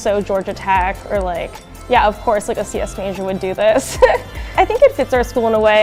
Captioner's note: laughs